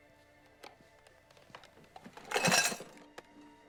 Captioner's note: none